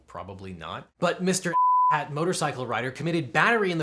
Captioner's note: beep